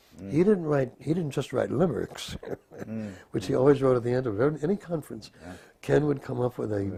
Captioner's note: laugh